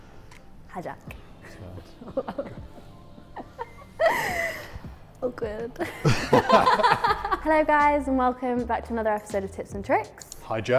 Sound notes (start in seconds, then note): 2.0 laughter; 5.8 laughter